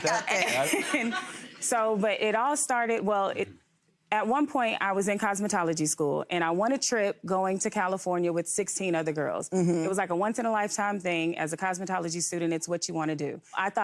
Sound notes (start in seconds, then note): 0.0 audience chuckling; 0.0 audience laughing